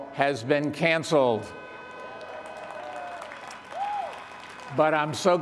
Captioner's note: graduates and participants cheer